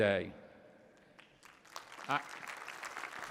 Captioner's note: applause